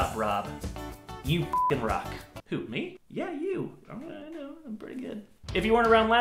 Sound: mumbles to self

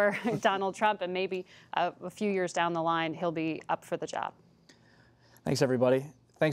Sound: laughter

